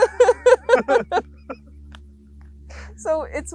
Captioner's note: laugh